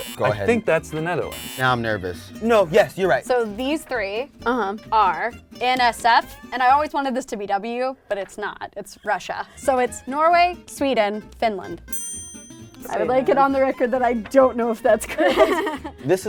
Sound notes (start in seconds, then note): 11.9 ping